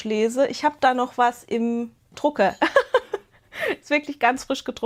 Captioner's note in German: Gelächter